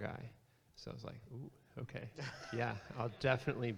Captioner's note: audience laughs